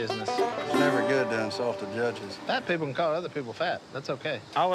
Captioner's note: none